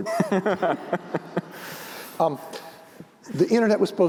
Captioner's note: laughter